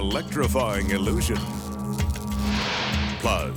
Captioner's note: electricity buzzing